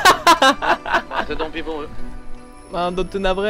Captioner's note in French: rires; radio